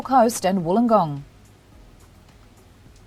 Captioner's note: pause